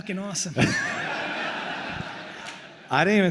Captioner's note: attendees laughing